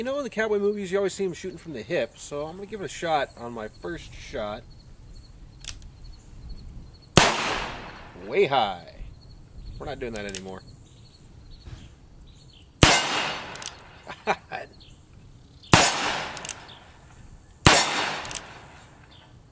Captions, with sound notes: cowboy movies you always see them shooting from the hip so I'm going to give it a shot on my first shot. (click) (gun fires) Way high. We're not doing that anymore. (gun fires) (laughs) (gun fires) (gun fires)